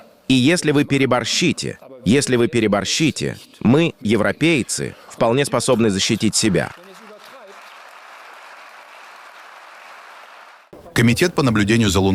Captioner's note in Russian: Аплодисменты